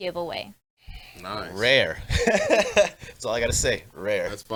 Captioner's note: laughs